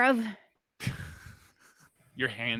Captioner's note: laughs